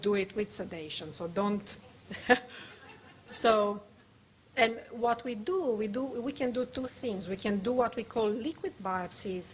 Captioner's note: laughs